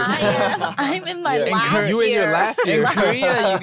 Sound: laughter

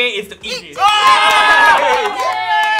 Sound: cheering

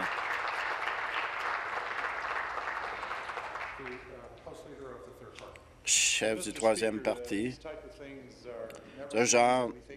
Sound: applause

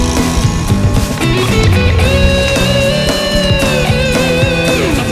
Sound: helicopter sounds

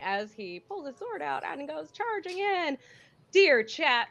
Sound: none

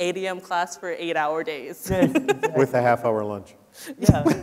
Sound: laughs

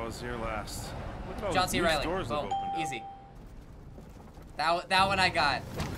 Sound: bell rings

